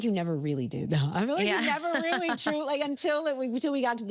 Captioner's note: laughing